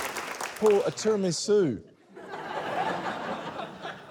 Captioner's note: laughter